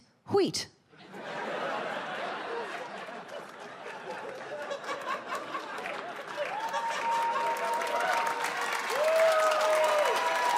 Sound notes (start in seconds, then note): 3.8 audience cheers and applauds